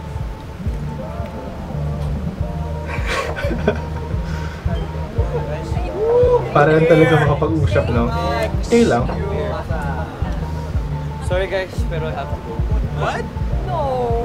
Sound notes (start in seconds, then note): 2.8 giggles